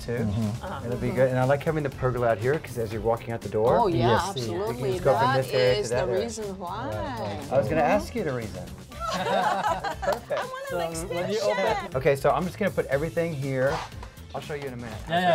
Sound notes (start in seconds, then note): 8.9 all laugh